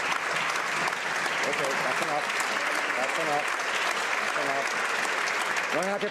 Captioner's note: some Applause